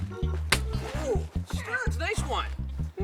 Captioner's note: smack thuds